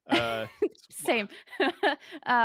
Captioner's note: laughs